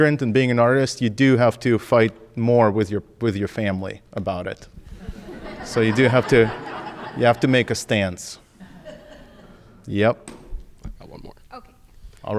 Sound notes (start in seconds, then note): 4.9 audience laughing